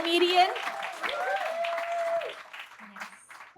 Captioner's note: audience claps and cheers